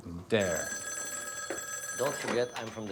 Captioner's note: phone ringing